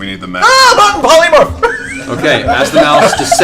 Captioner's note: yelps